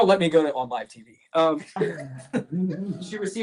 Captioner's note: laughter